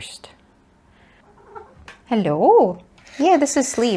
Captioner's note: mrrrp